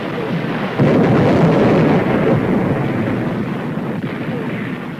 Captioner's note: explosion booms